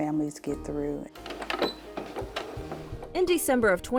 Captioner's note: sewing machine clicks